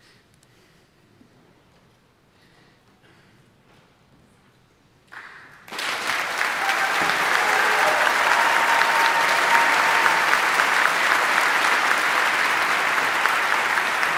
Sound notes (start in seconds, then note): 5.9 audience applauding; 8.0 audience cheering